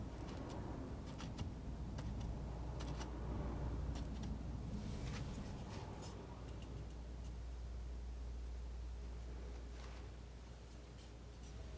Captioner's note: scissors snipping